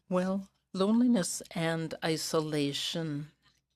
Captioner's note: speaking in french